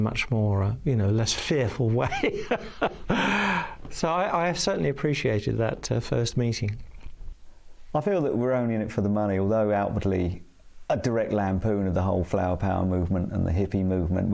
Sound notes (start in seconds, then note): 2.0 laughing